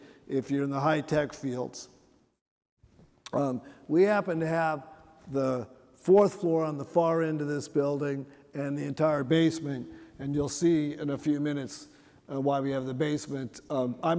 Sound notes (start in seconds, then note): none